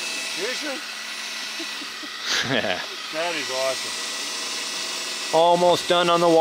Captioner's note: rumbling pump engine